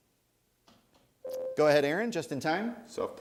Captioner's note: ding